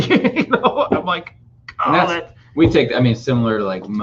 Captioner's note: laughing